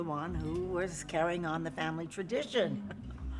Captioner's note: chuckles